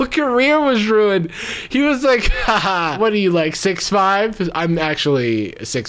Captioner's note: laughing